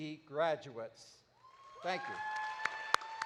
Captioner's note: audience applauding